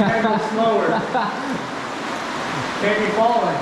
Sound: laughing

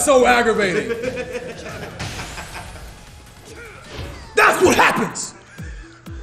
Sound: laugh

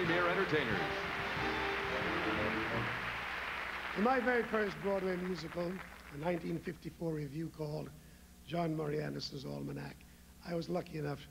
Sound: applause

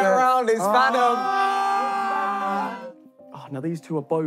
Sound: cheering

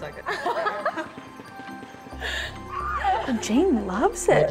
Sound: laughing

